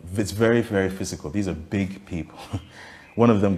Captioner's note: laughs cynically